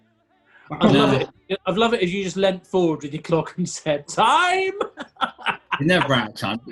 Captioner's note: laughing